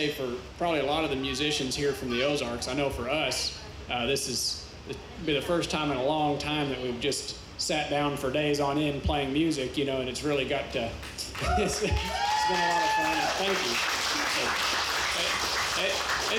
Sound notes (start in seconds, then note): 11.2 chuckles; 11.2 audience cheers; 14.6 audience applauds